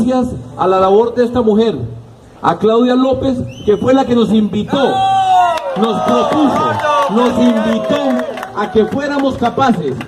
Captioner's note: claps